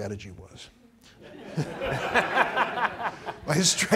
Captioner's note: laughing